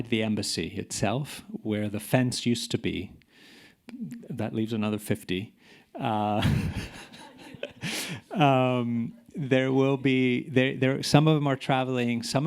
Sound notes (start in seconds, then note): 6.3 chuckling